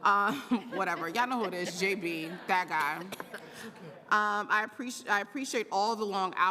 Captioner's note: laughter